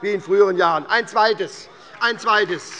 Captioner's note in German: Beifall bei der SPD - Widerspruch bei der CDU